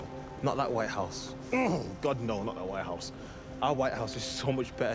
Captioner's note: groans